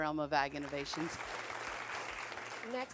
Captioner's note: crowd applause